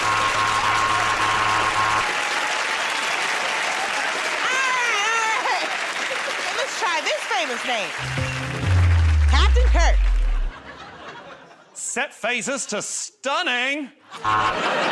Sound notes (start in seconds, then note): 0.0 buzzer; 3.0 cheering, whistling, and applause; 8.0 suspenseful sting plays; 10.5 laughter; 14.2 buzzer